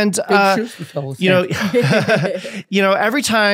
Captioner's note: all laughing